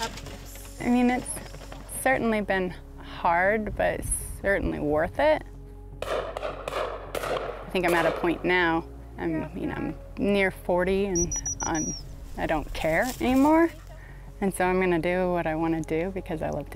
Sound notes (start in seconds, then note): 6.0 gunshots